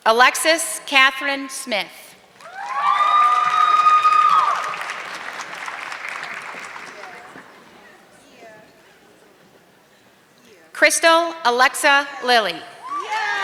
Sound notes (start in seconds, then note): 2.3 audience clapping